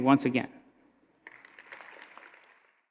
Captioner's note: audience applauding